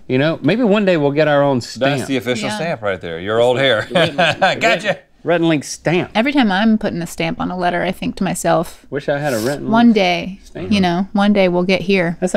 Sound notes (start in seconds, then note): 3.6 laughs